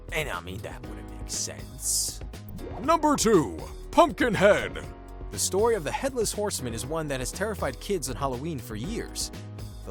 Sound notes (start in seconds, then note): 3.2 deep Voiceover